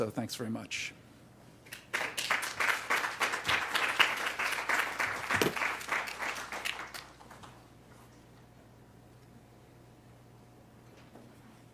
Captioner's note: applause